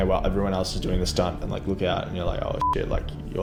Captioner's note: beep